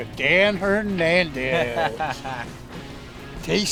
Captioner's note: laughs